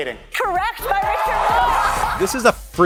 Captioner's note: cheering